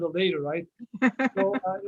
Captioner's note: laughs